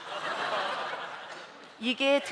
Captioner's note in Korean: 웃음